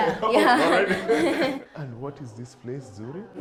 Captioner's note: both laughing